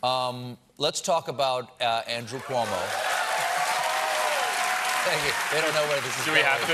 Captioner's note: applause